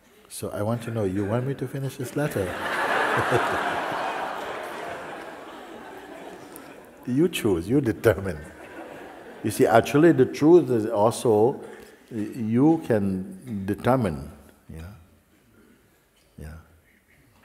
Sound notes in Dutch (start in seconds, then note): 4.1 gelach